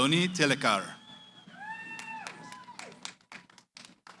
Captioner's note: cheering